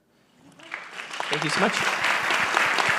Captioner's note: audience applauding